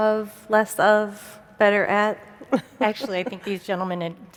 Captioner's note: laughs